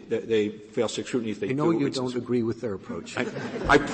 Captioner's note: laughter